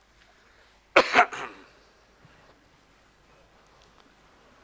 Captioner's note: coughing